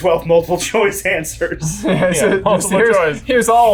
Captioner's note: laughing